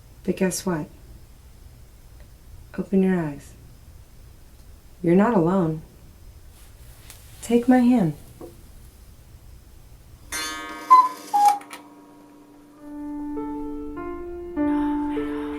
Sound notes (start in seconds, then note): 10.3 clock chiming; 12.9 gentle music